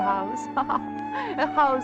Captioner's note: laughs